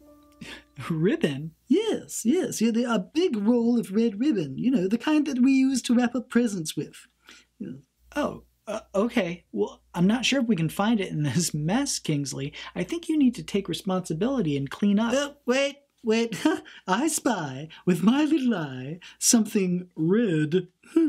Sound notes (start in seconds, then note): 16.3 laughs; 20.8 laughs quietly